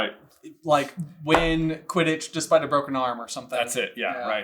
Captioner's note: none